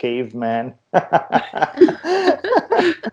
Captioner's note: laughter